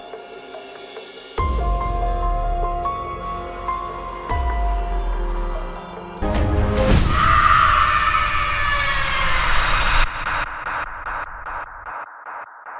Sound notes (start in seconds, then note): 7.0 screaming